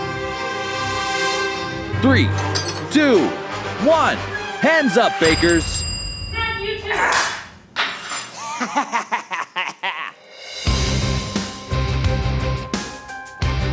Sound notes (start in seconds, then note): 8.3 laughs; 10.5 dramatic music